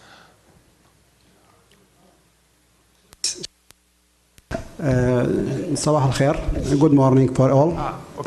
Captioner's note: speaking in foreign language